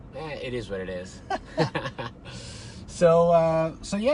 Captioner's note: laughing